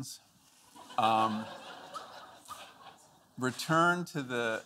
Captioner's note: audience laughing